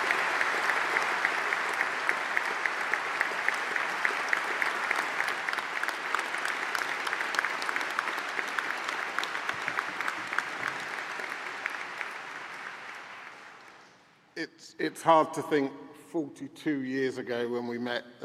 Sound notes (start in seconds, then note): 5.6 applause; 13.4 applause